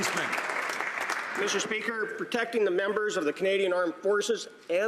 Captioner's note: some Applause